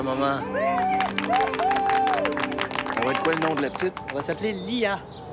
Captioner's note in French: applaudissements